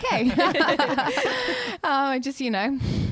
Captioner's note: laughing together